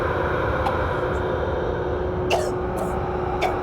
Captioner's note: choking